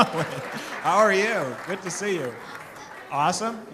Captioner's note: applause